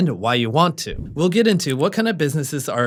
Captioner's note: air whooshing